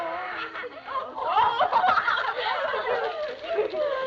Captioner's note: all laughing